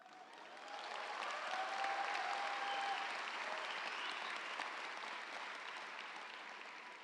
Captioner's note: audience applauding; audience cheering